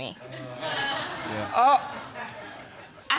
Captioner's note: spectators laugh